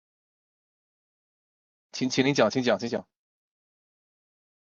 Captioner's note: speaking other language